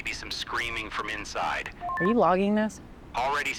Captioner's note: radio beeps